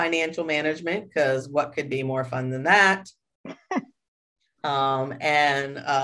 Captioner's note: chuckles